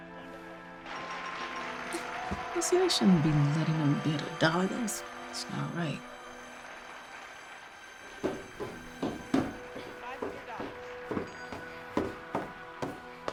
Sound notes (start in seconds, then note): 0.9 audience applauds